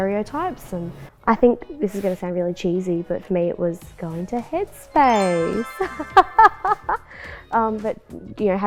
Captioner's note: laughter